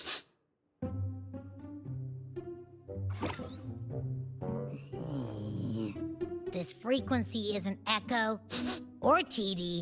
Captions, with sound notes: (sniffs) (grunts) This frequency is an echo, or TD.